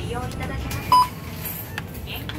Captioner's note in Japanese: 商品のバーコードスキャン音